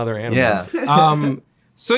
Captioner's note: Zack laughs